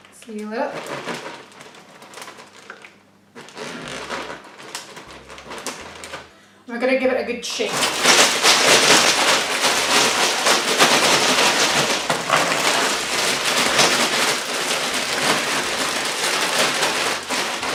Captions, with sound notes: (bag zips shut) We're gonna give it a good shake (Frozen fish shaking)